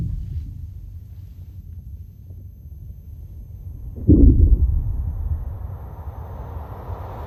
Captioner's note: sound of water and wind